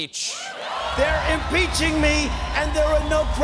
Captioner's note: cheers and applause